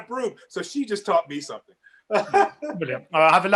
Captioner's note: laughs